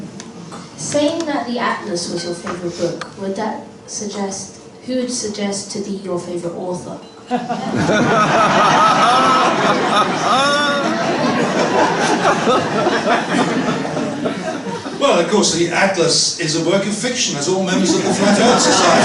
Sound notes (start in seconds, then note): 7.2 laughter